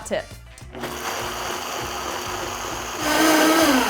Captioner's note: blender mixes